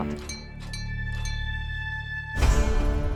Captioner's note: bell ringing